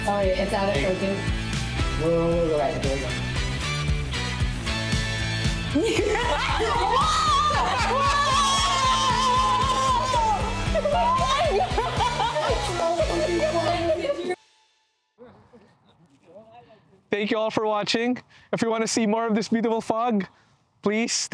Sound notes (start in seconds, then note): 5.8 cheering